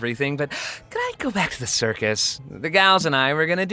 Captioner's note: inhales sharply